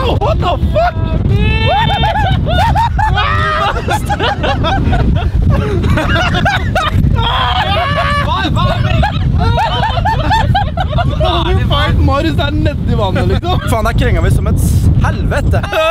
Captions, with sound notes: *intense screaming* *more screaming* Marius is literally in the water we were heeling like hell.